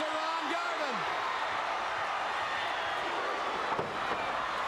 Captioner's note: crowd chattering